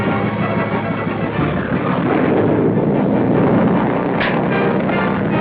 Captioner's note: engine roaring